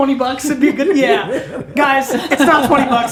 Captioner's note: laughter